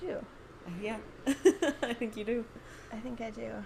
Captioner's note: laughs